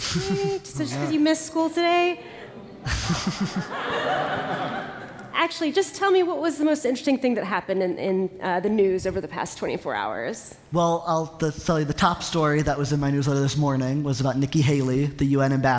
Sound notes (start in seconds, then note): 0.1 laughter; 2.5 laughter